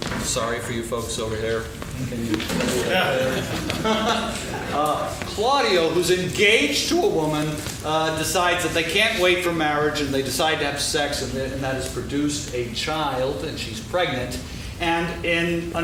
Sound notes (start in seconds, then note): 2.4 laughing; 5.3 laughs